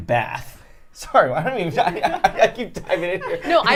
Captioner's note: laughs